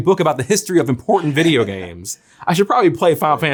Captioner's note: Zack laughs